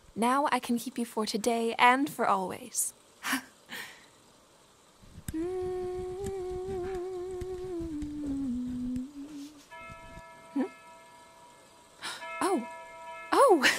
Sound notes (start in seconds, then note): 4.5 humming; 8.0 church Bell in the distance